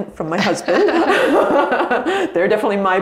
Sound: both laugh

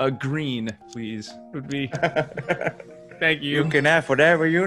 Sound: laugh

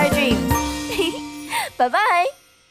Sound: giggle

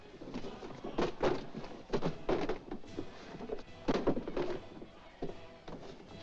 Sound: books clatter; jovial music & singing

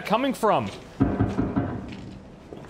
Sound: loud banging

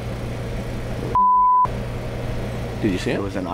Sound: beep

